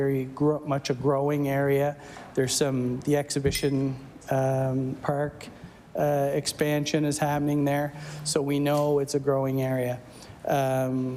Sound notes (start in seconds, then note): none